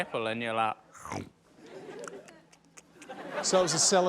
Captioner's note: imitates chomping